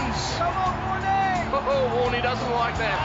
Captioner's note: shouting